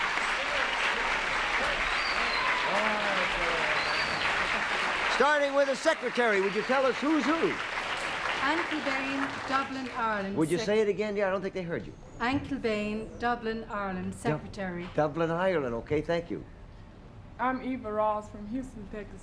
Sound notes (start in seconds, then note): 2.6 applause; 10.5 applause